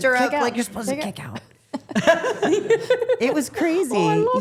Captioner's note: chuckles